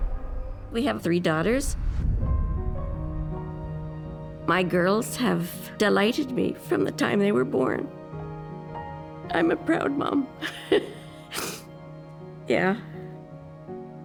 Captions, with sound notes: We have three daughters. [soft music plays] My girls have delighted me from the time they were born. [tearfully] I'm a proud mom. [laughs, sniffles] Yeah.